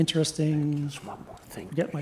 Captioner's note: whispering